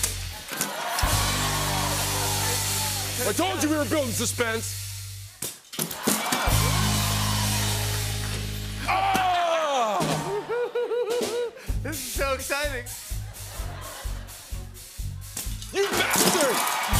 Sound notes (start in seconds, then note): 0.0 rimshot; 0.4 cheering and applause; 5.9 cheering and applause; 6.8 rimshot; 10.2 laughter; 12.9 laughter; 15.7 cheering and applause; 16.1 rimshot